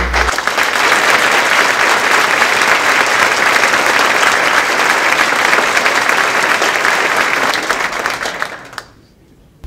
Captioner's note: applause